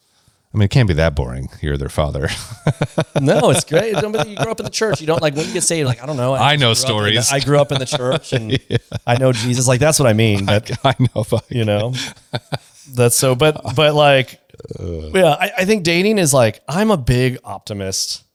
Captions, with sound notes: I mean, it can't be that boring. You're their father. [laughs] No, it's great. No, but you grew up in the church. You don't, like, what are you gonna say? Like, I don't know, I grew up in- -I know stories. [laughs] -... I grew up in the church, and -I know Jesus. Like, that's what I mean. -I, I know f- [laughs] You know? -That's so, but, but, like- -Ugh ... yeah, I, I think dating is like, I'm a big optimist.